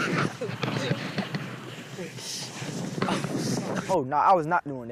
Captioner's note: laughing